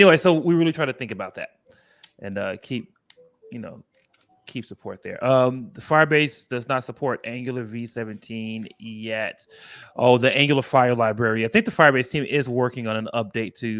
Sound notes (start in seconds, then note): none